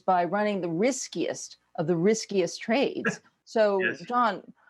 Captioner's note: laughs